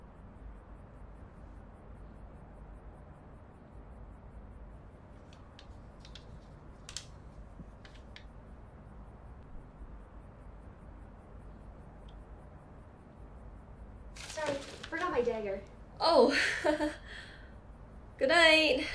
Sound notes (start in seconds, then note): 16.3 nervous laugh